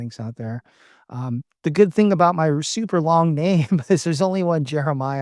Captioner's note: laughs